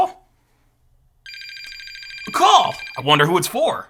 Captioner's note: phone ringing